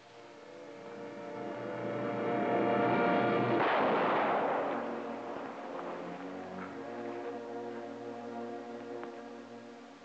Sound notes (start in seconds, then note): 0.2 tense music; 3.5 guns blasting; 5.8 dramatic music